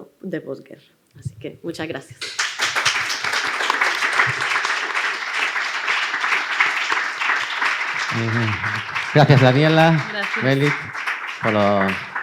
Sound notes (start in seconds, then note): 2.5 the crowd applauds